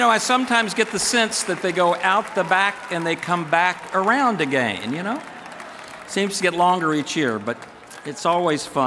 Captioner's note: applause